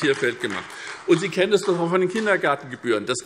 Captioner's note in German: Beifall SPD